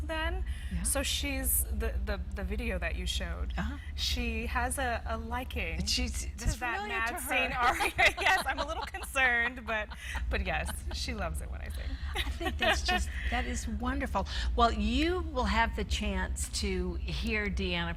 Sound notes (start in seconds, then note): 7.5 laughs